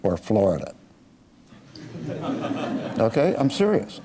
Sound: laughing

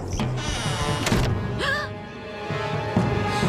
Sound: gasps

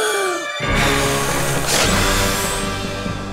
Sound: blowing

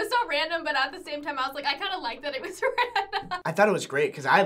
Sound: laughs

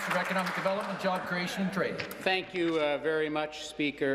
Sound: applause

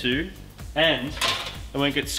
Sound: metallic clattering

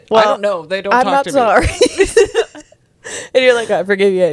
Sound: laughs

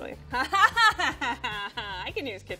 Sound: laughs

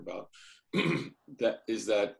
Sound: clears throat

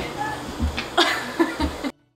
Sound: laughing

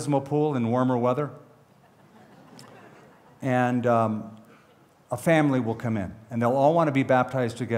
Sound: laughter

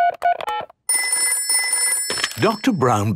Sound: dial tones beeping; ringing

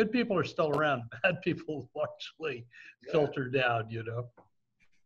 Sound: laughs

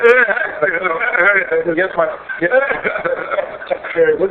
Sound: microphone interference

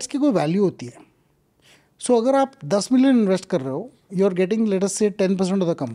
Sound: speaks in Hindi

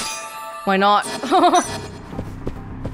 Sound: laughs

